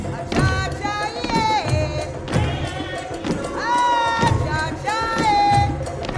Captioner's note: chanting